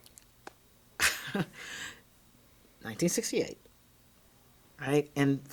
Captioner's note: chuckles